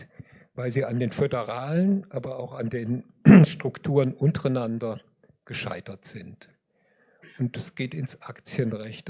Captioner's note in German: räuspern